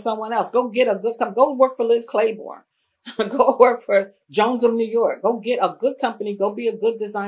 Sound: laughs

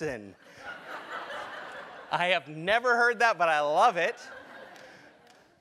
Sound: laugh

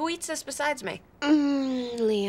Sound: groaning

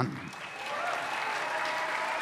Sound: applause

